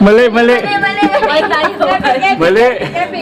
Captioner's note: people talking